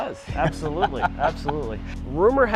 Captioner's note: man chuckling